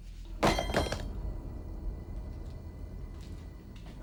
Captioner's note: tool clangs